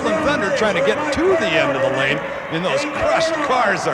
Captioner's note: audience cheering